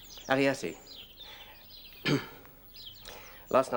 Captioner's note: Pod clears his throat